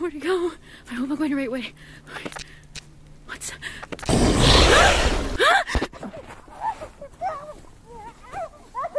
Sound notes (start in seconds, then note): 4.5 man growls; 4.6 Destiny screams; 6.0 muffled screaming